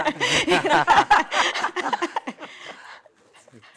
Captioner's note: laughter